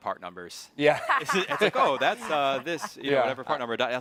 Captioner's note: hosts chuckling